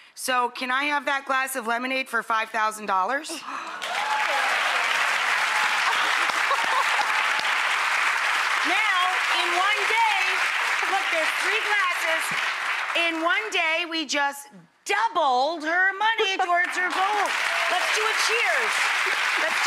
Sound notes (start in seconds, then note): 3.3 audience applauding; 16.4 audience applauding loudly